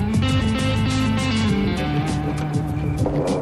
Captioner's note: sirens wailing in distance; groans